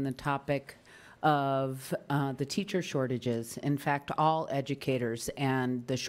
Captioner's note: none